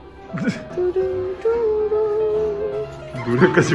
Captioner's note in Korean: 노래 흥얼흥얼